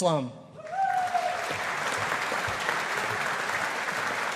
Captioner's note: audience applauding